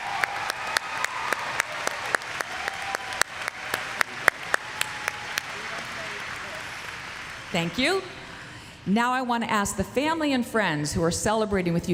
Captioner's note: applause